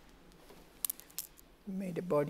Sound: cracking

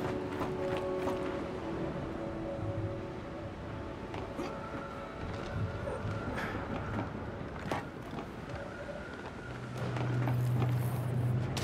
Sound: suspenseful music; footsteps

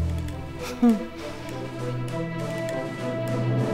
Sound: evil laugh

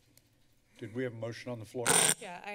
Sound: screeching noise

